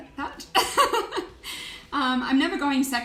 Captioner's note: laughing